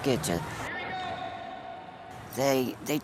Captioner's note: echoing